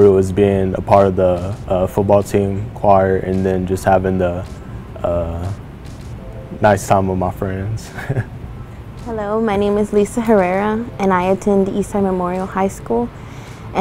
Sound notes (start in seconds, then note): 7.9 laughs